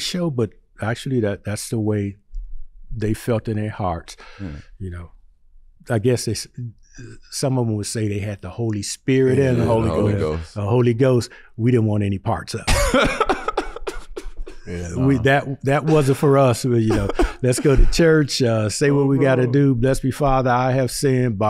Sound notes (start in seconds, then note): 12.7 laughing